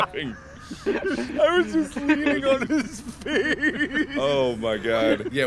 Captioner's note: more laughter